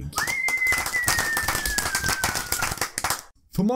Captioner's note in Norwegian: Applaus